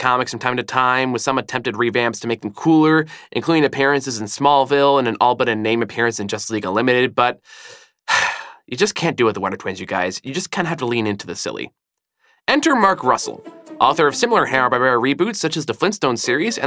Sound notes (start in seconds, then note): 8.0 sigh